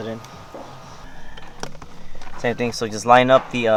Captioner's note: metal clanking